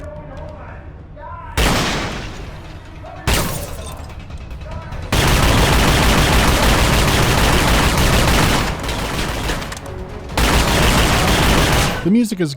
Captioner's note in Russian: выстрелы гулкие, и темп огня не даёт им сливаться в однообразное бррт